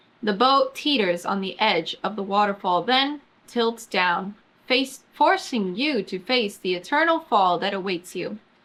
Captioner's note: none